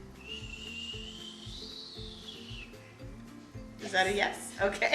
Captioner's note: shushing